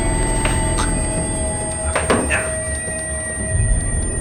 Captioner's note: gagging